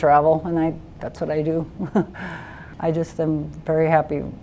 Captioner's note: laughs